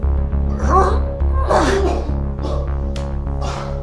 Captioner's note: retching